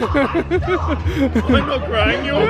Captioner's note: laughing